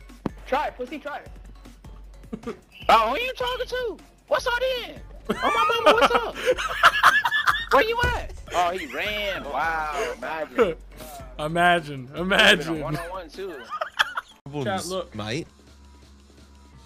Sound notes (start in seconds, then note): 5.3 laughs